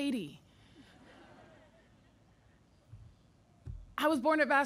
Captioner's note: audience laughing